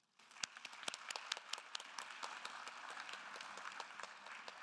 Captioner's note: attendees applauding